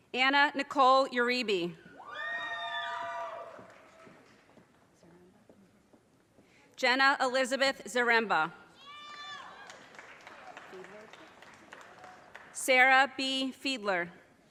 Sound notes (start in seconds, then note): 2.1 audience cheers and applause; 9.4 audience cheers and applause